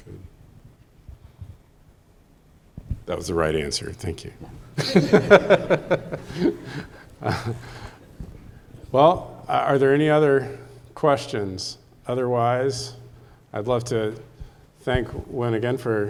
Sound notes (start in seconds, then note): 4.6 laughs